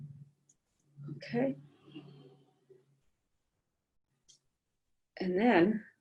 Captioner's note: silence